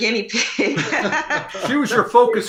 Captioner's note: happy laughter